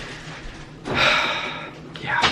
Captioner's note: sigh